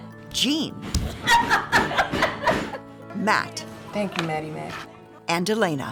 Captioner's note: laughing